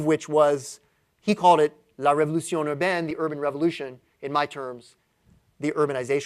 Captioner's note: french